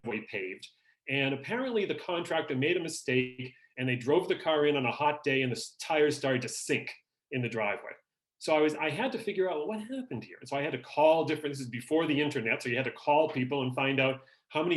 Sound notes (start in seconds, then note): none